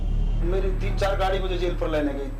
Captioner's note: speaking hindi